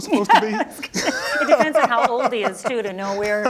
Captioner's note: both laughing